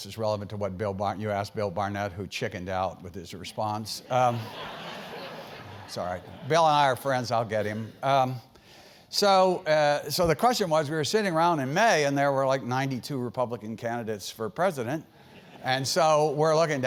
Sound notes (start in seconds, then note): 4.3 laugh